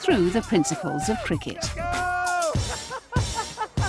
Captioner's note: cheering; laughing